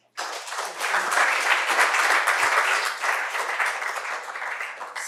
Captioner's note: applause